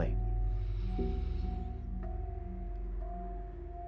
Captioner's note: Joe inhales